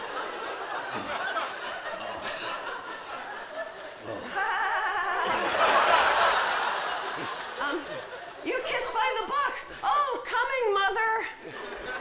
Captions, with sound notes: [GIGGLING] UM, YOU KISS BY TH' BOOK. OH, COMING, MOTHER!